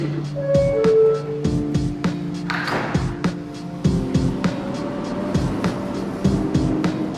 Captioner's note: soft thoughtful music; subway machinery beeping